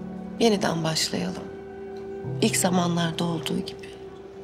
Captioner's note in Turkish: none